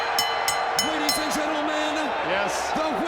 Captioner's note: bell ringing; crowd cheering